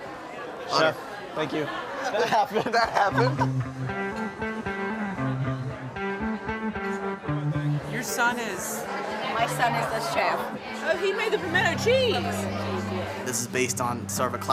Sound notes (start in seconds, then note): 1.8 laughs; 3.0 upbeat music